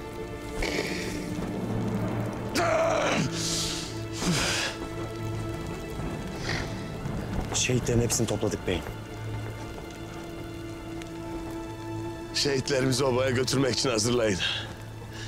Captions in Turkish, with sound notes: (Haykırma sesi) Şehitlerin hepsini topladık beyim. Şehitlerimizi obaya götürmek için hazırlayın.